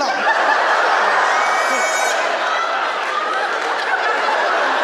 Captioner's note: audience laughing